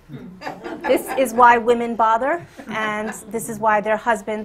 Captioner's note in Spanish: Risas